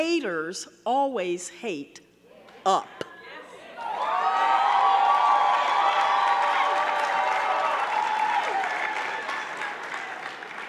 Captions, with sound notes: haters always hate, up. (audience cheering) (audience clapping)